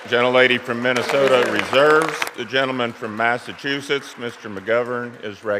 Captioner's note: applause